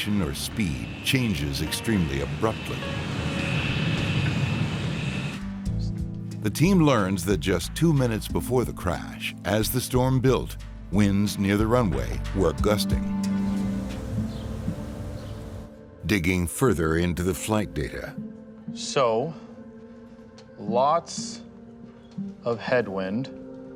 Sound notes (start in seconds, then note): 3.1 humming; 13.3 birds chirping; 13.6 gentle music